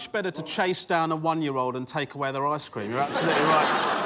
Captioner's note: laughter